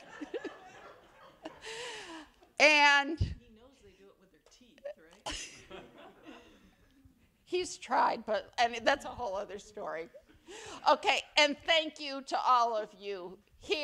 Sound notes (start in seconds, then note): 5.3 attendees laugh